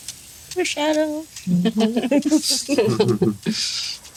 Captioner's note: all chuckle